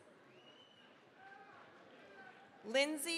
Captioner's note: cheering, applause